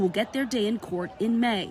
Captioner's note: crowd chanting